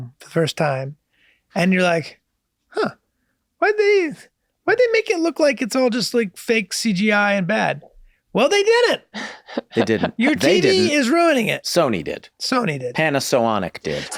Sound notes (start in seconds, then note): 9.2 laughs